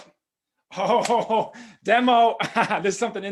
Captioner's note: laughs